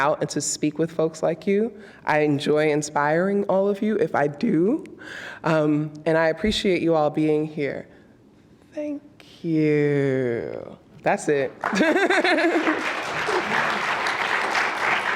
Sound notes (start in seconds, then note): 11.5 applause